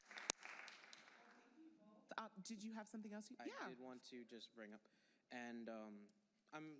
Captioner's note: applause